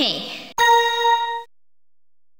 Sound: chime

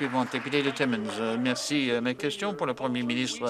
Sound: applause

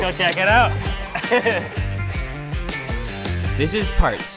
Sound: funky music; laughs

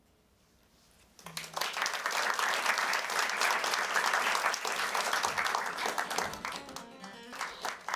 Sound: applause

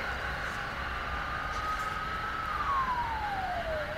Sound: siren

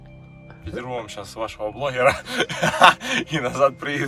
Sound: laughter

